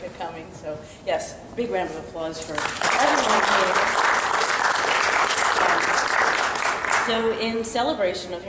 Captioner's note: clapping